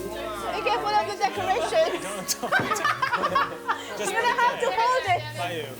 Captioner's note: general laughter